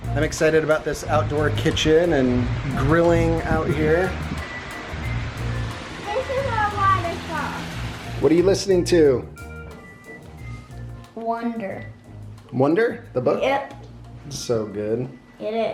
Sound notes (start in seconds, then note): 0.0 gentle music; 4.4 water splashing